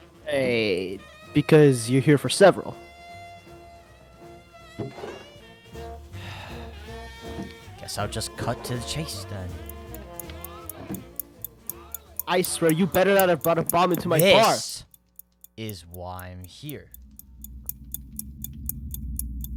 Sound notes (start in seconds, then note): 6.2 sigh; 9.5 ticking; 17.3 ticking